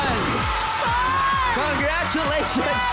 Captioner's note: cheering, applause